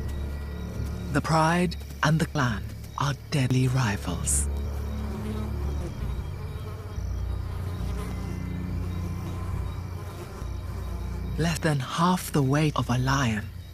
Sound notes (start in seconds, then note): 5.3 flies buzzing